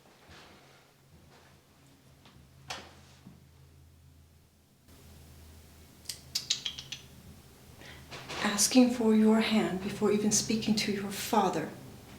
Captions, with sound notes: (mother tuts) - Asking for your hand before even speaking to your father?